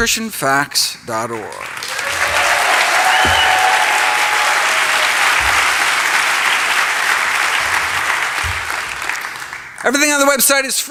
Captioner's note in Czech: Potlesk